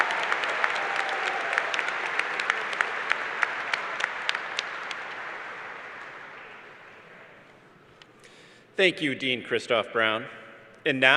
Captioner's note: cheers and Applause